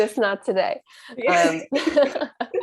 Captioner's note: laughter